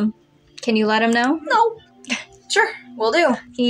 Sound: chuckle

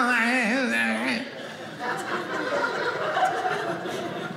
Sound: audience laughing

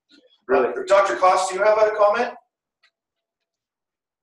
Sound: male Voice

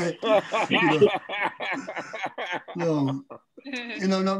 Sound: man laughing

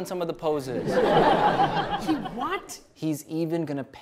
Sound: audience laughs

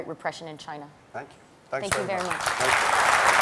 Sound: applause

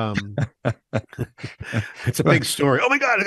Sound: laughs

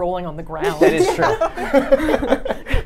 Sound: laughs

